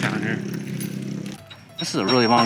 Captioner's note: UTV engine roaring